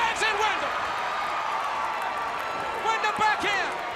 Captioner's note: crowd cheering